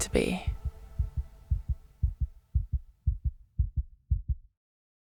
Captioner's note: heart beat